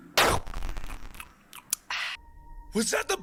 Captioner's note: smacks lips